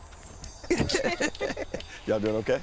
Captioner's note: all laughing